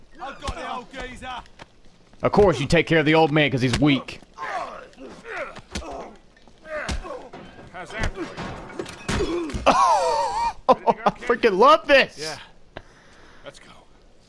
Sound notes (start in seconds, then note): 9.2 amazed laughter